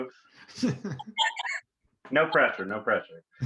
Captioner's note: group laughs